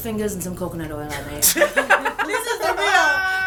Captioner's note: laughter